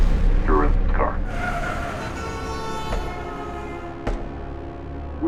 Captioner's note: vehicles skidding in distant